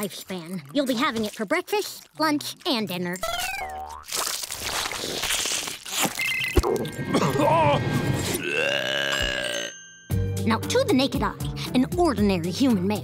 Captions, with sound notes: You'll be having it for breakfast, lunch and dinner. [stomach gurgles, coughs] [belching] Now, to the naked eye, an ordinary human male,